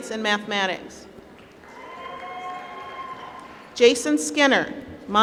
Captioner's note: applause